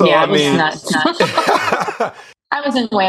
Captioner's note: laughter